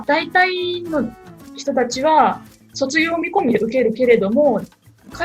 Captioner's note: Japanese